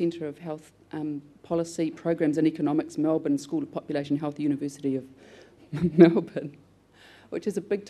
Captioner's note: laughs